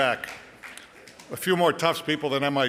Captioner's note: light applause